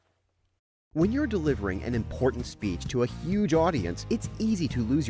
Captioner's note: voiceover